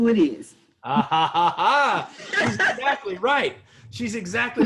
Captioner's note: laughter